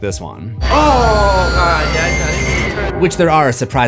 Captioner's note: screams